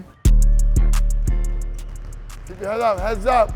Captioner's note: basketballs dribbling